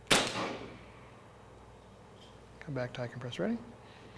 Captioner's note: gunshot